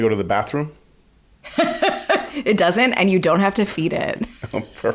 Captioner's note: laughs